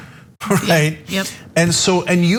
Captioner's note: laugh